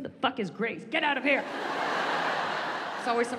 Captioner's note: audience laughs